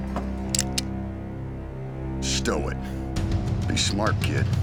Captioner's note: knife lands; gun cocks